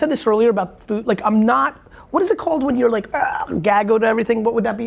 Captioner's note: gags